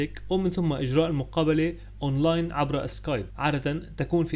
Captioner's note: via Skype